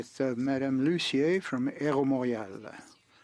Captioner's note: speaking French